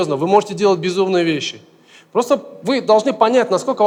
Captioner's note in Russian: none